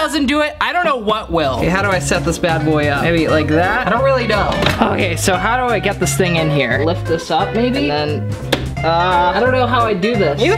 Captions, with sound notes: If this doesn't do it, I don't know what will. 'Kay, how do I set this bad boy up? I mean, like that? I don't really know. Okay, so how do I get this thing in here? Flip this up, maybe, and then- (groaning) I don't know how I do this.